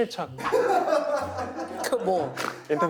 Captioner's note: holding back laughter